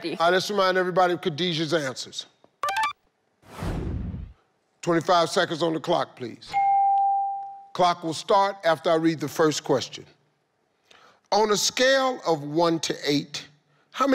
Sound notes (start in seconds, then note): 2.6 tone beeping; 6.6 tone dinging